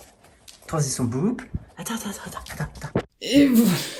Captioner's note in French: boop